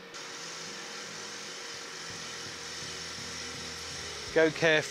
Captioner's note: machine whirring